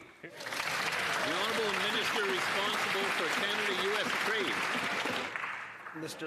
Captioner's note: some Applause